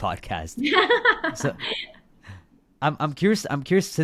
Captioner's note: laughs